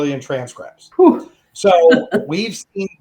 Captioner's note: laughing